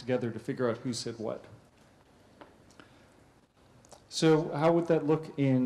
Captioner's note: pause